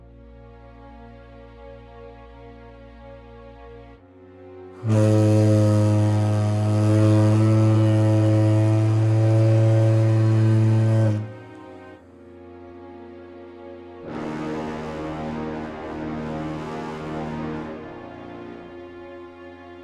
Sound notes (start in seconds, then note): 4.6 RMS Organic blows her horn